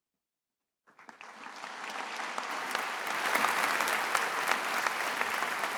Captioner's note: attendees applauding